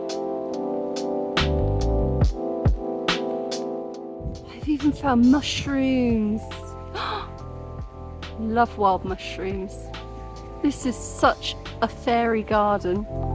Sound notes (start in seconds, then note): 6.9 gasp